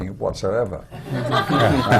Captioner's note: laughter